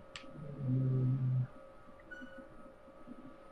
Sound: humming

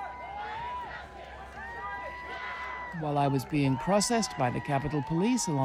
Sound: crowd cheering

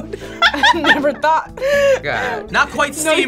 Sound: laughs

